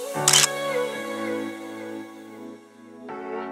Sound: camera clicks

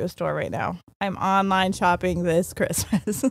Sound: chuckles

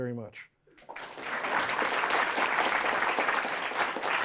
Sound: applause

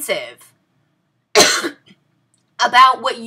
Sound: coughs

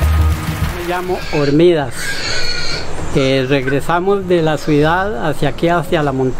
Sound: speaks in foreign language

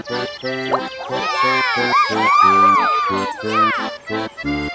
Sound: cheering

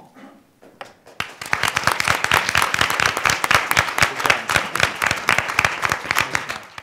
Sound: applause

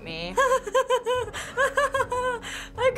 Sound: crazed laughing

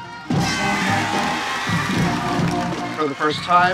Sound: students cheering

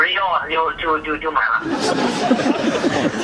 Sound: laughter

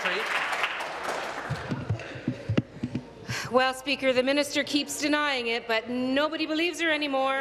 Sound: applause

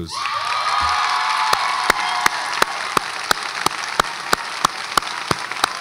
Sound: audience applauds and cheers

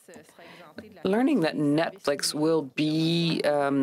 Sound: speaking french

